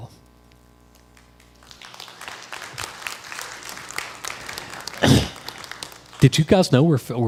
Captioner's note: crowd applause